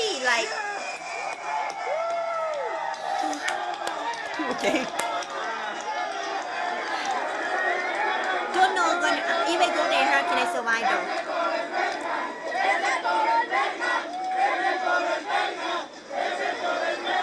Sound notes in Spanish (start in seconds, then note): 0.6 Aplausos